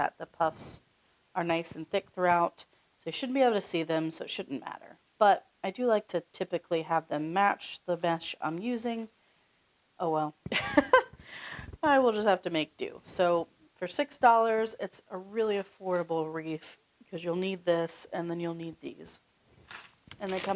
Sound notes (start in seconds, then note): 10.5 chuckles